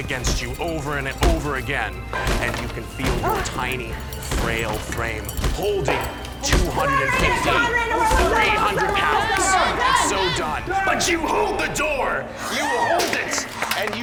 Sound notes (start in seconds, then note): 9.2 screams at Simon